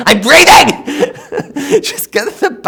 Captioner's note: laughs